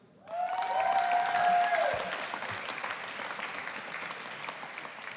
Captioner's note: audience applauding and cheering